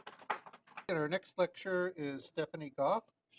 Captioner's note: applause